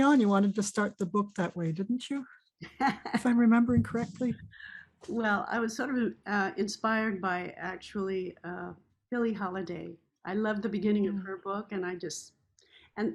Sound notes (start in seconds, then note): 2.6 laughs